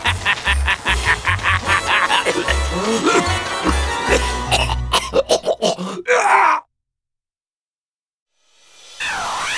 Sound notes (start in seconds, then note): 0.0 laughing; 1.8 coughing